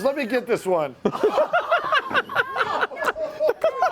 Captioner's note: laughter